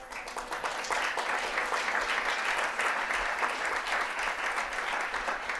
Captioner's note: audience applauding